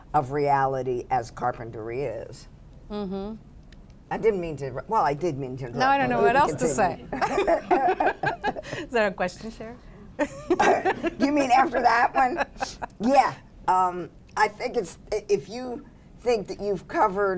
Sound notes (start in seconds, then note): 7.1 laughter; 10.2 laughs